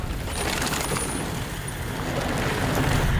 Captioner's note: bike whizzing; bikes whizzing